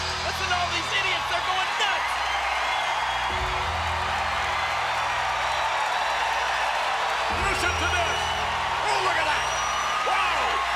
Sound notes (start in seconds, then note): 4.4 applause